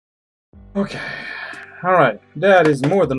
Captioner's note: sighing